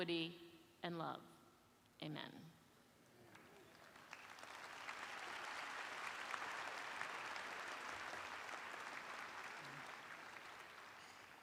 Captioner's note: applause